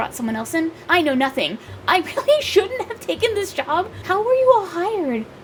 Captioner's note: laughs